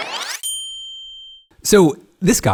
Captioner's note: film rewinding; bell pings